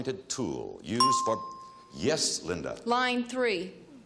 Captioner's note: bell chime